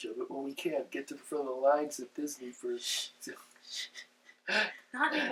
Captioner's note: laughs